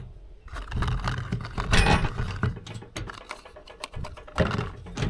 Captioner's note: metal clanking